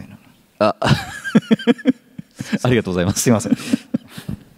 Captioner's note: laughs